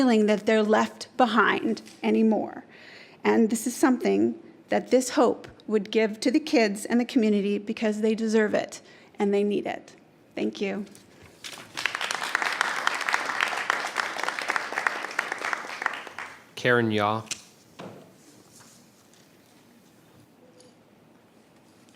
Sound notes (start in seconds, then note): 11.4 applause